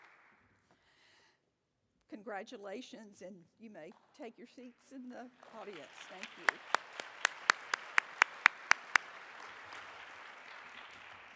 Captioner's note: applause